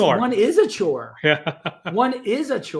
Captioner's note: laughing